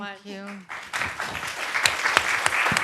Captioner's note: applause